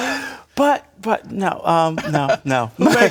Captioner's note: laughter